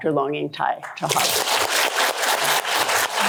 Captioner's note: applause